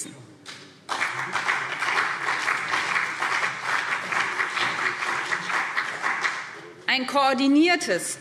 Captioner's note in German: Beifall BÜNDNIS 90/DIE GRÜNEN und CDU